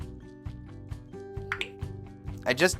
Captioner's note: iPhone clicks